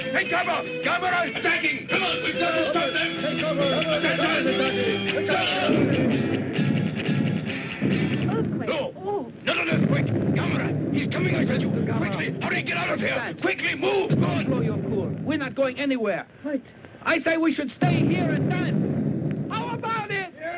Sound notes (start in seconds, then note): 4.2 men chattering; 5.6 explosion booms